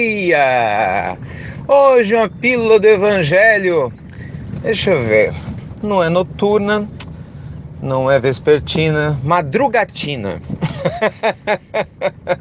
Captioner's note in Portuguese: Risos